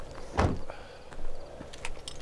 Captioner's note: door shuts